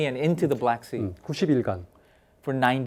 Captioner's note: speaking in Korean